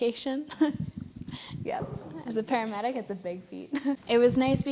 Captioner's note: laughs